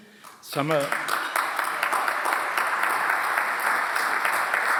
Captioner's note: audience applauds